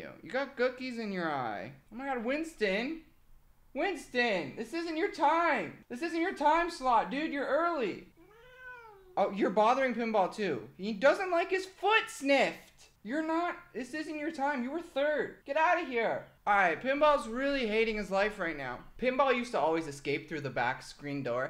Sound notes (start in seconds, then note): 8.2 meows